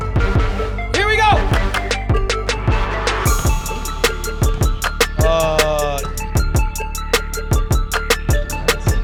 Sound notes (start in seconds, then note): 5.3 groans